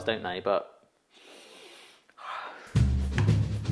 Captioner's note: deeply sniffs; upbeat music